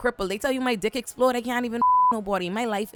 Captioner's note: beep